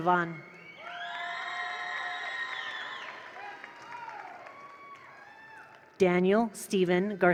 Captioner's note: attendees cheer; attendees applaud